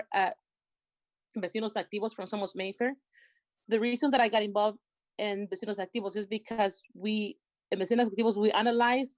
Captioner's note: spanish